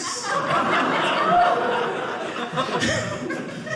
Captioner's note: audience laughing